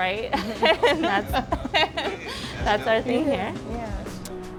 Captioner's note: laughs